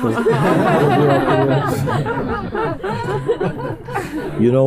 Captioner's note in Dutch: gelach